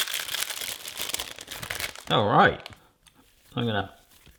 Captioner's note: plastic crinkles